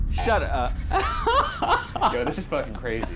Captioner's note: laughing